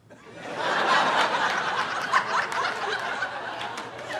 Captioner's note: audience laughing